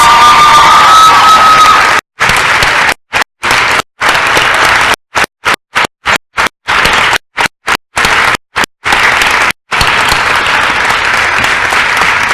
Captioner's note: crowd applause & cheering